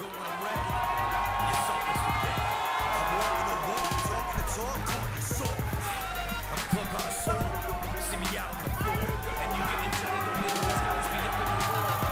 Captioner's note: cheers & applause